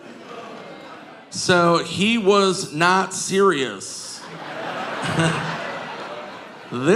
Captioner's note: audience laughing